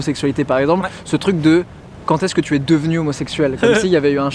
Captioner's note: laughs